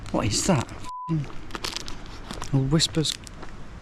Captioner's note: beep